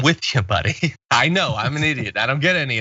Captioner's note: laugh